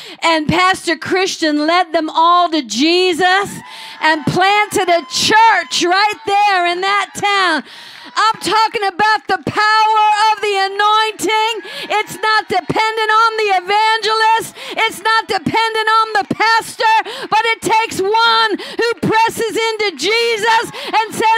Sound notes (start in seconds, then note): 7.3 cheering; 7.3 crowd